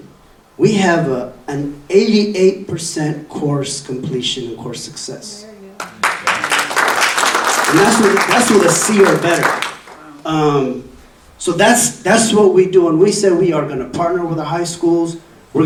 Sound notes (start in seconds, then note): 5.8 audience applauding